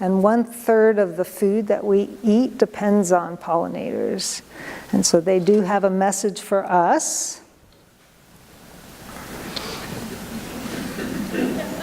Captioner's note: audience laughs